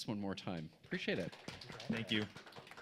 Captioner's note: applause